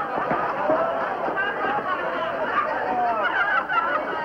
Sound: laughter

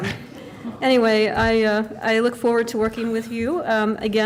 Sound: laughter

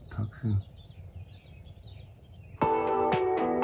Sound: birds chirping; bright upbeat music

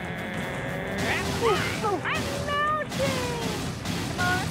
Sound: growling; yelling

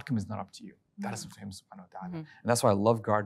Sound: speaking Arabic

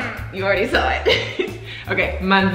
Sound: laughs

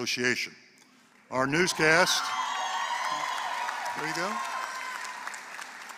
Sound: applause

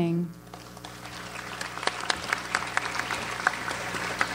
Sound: audience applauds

